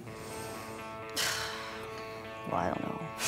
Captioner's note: sighs